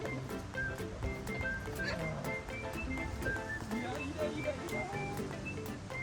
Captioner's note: laughs